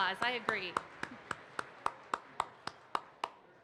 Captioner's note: claps